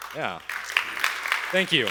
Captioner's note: applause